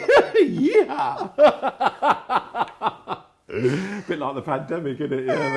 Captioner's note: laughing